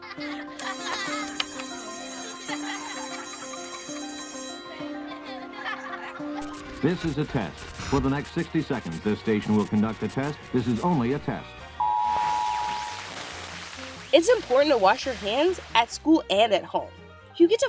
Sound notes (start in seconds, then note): 0.6 school bell ringing; 1.9 children laughing